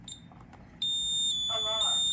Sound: beep; beeping pulsing from high to low

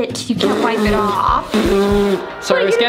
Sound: sputters

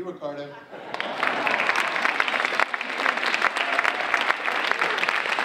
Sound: audience applauding

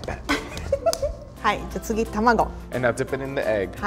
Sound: laughs

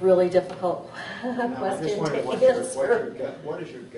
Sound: chuckles

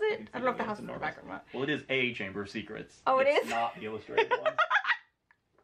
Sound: laughs

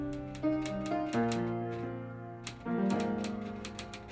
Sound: typewriter keys clacking; somber music

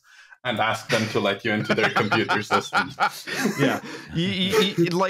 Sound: laughter

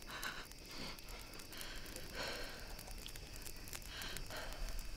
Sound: Raven tries to calm her breathing

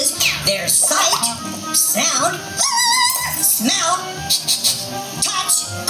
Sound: screaming; sniffing sound

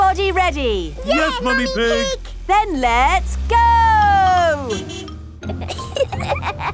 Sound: honking; giggling

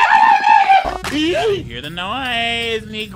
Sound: character screams; laughs

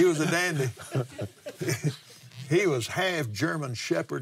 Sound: laughs

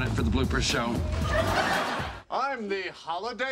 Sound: audience laughing

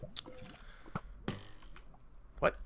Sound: arrow twang

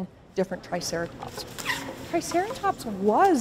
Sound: packing materials being removed

